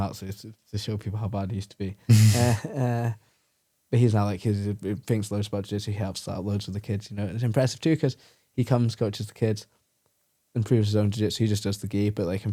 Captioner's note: laughs